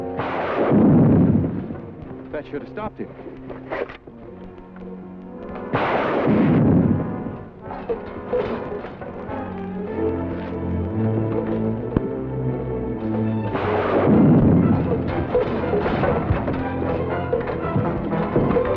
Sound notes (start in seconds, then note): 0.0 gun firing; 5.4 gun firing; 15.5 suspenseful music